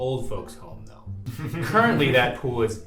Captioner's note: laughs